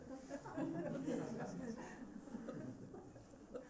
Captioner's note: laughter